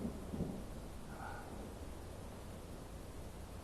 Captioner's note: sighs